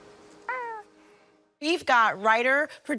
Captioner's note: baby cooing